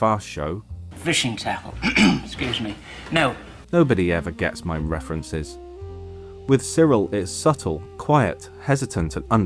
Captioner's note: cough